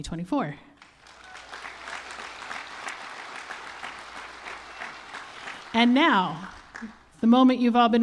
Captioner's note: applause